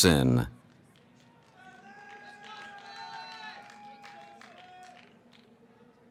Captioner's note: cheering